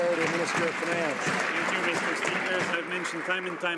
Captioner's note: some Applause